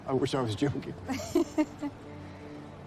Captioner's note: laughing